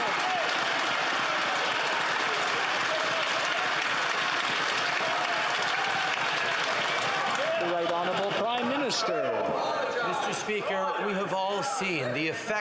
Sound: some Applaus

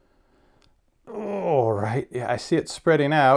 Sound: grunts

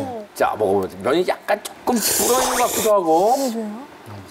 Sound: sluuurrp

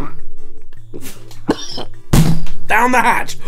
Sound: coughing; retching

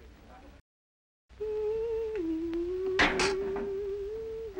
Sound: humming

